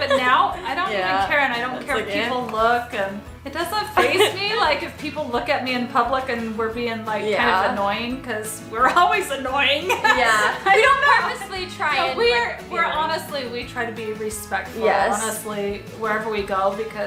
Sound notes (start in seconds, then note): 9.8 laughs